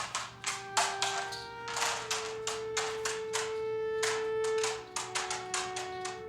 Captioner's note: shackles clanking; somber music